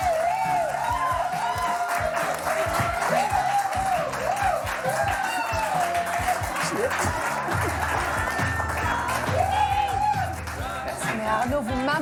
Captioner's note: applause